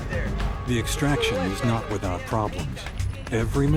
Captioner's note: voiceover